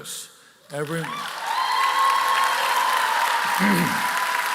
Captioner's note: applause